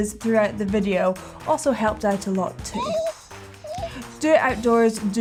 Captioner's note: whining